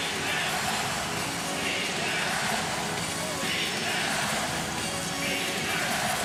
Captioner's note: crowd chanting, "defense"